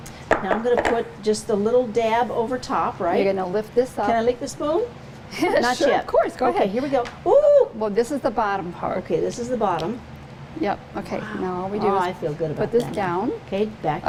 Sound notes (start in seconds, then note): 5.4 laughs; 7.2 exclaims